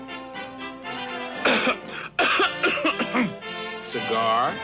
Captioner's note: coughing